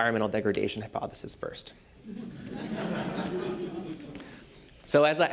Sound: laughter

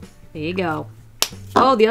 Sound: Crayon lid snaps shut

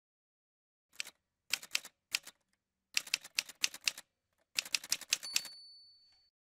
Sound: typewriter sounds

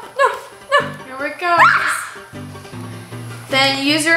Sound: shrieks

